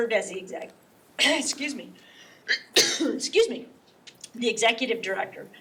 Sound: coughs; clears throat

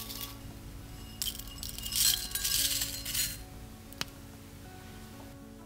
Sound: dry ingredients rustle together; tea falls into cup

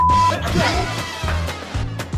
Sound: laughing

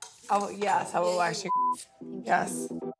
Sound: beep

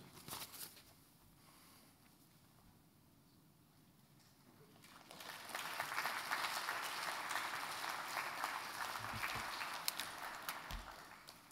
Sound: applause

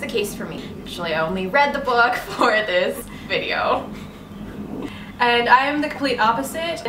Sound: both chuckle

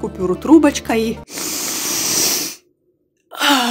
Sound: deep breath; exhalation

